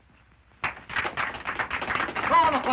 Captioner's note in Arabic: الرجال يصفقون